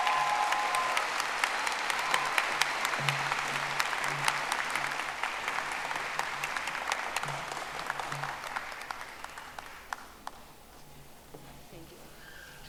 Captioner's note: audience applauding